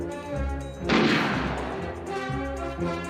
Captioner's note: gunshot